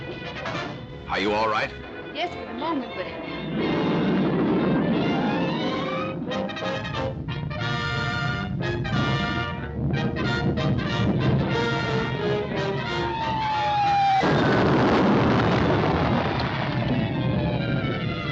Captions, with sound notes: - Are you all right? - Yes, at the moment, but it... (triumphant music) (comet roars) (explosion booms)